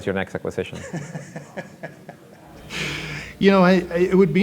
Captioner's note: laughing